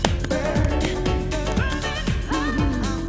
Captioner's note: clapping